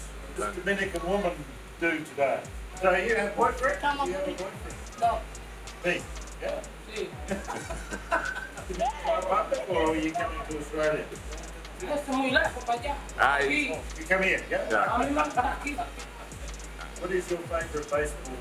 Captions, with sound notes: Does Dominican woman do today? So you have a boyfriend? No. Me, yeah? Yes. [Laughter] Do I come to Dominican Republic or you come to Australia? Is too far for me, I want to stay here. I like to be here. What is your favourite baseball team?